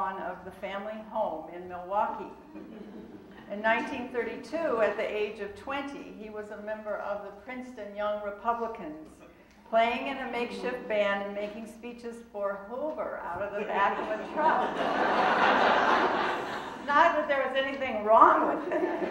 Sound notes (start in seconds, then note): 15.4 audience laughing